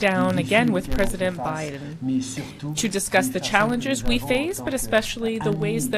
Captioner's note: speaking French